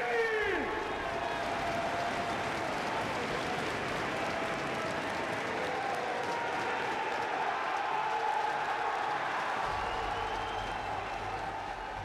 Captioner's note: applause